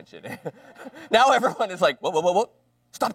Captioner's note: laughter